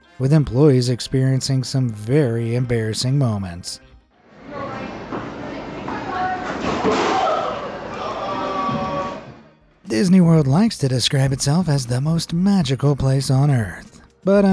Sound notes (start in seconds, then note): 4.3 people chattering; 5.0 thuds